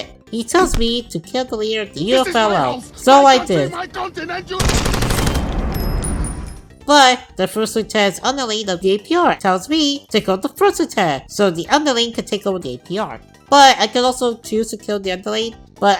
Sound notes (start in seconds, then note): 4.6 gunfire